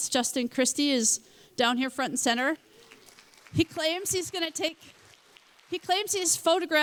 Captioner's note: applause